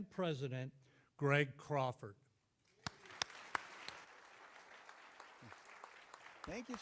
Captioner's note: clapping